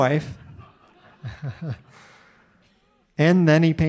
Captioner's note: audience laughing